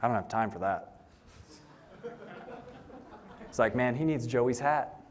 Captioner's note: laughter